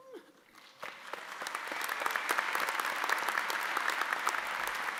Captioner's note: audience applauding